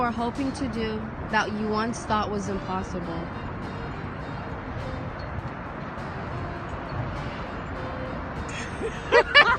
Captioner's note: laughter